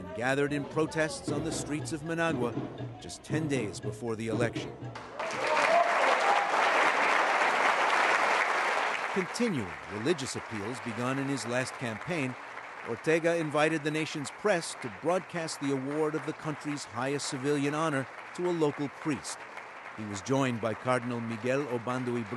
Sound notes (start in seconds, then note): 5.0 cheering and applause